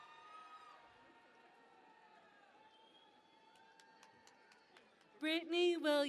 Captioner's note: cheering and Applause